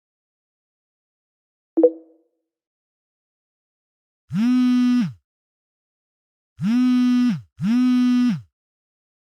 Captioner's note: phone Vibrating